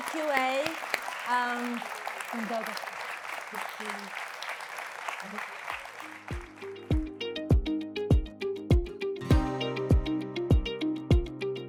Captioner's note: applause